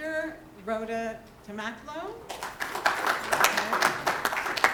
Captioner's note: applause